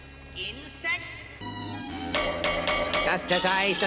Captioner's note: finger tapping metal noises